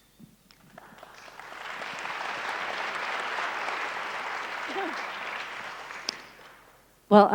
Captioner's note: applause